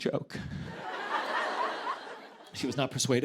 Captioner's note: laughter